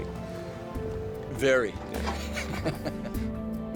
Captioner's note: chuckles